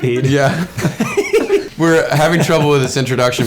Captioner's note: both laughing